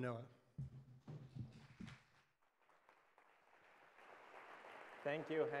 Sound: applause

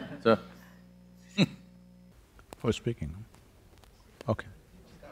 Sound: laughter; laughs

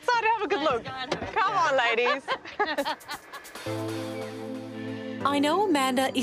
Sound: laughing

